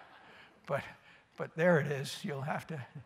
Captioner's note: laughter